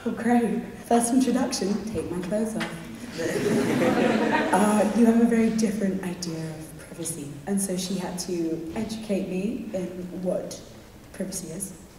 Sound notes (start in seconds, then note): 3.1 audience laughs